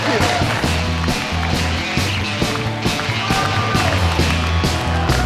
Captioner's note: cheering and applause